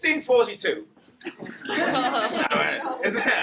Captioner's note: laughter